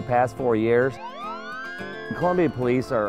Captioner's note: siren